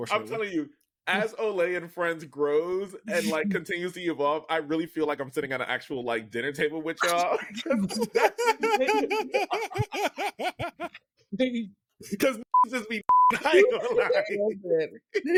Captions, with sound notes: I'm telling you, as Oli and friends grows and like continues to evolve, I really feel like I'm sitting at an actual like dinner table with y'all. (laughing) Because niggas just be niggin', I ain't gonna lie. (laughing)